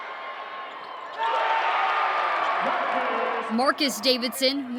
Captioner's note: cheering